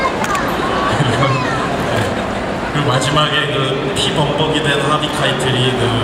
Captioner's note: speaking Korean